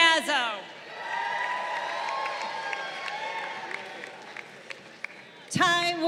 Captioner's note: crowd cheering